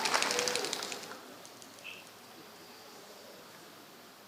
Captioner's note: applause